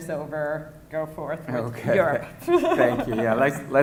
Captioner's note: laughing